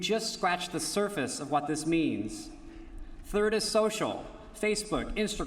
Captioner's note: none